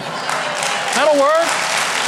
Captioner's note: audience laughs and claps